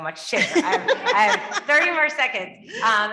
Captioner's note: members laughing